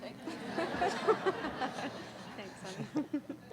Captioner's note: laughing